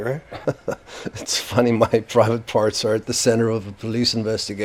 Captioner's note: chuckles